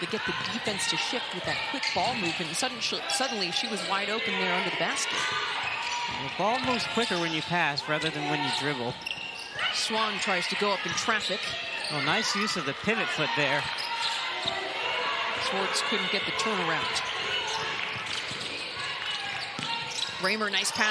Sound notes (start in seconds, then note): 13.2 crowd noise